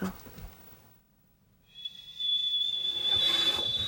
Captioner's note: static playing